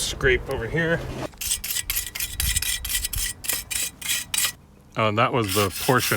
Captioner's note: wire brush scraping